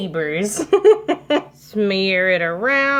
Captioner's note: laughing